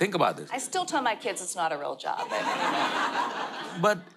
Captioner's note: audience laughter